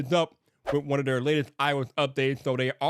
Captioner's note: screen whooshing